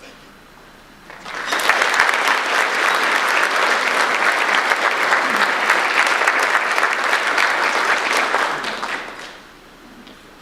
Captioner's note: audience applause